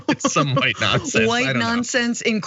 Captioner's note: laugh